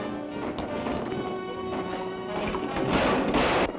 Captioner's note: gun fires; grenade clinks; gun fires